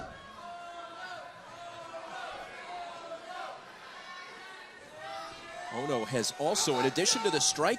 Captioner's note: crowd cheering